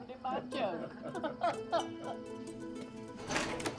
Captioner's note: both laugh